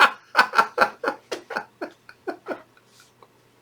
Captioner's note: laughing